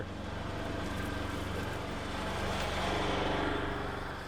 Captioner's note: UTV rumbling